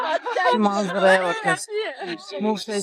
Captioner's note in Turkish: kahkaha